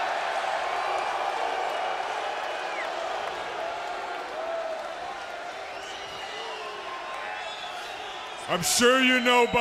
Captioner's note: crowd cheering